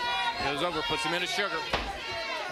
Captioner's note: crowd chatter